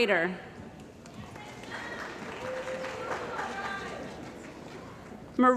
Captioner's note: cheering & Applause